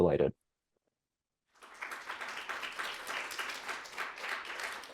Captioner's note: audience clapping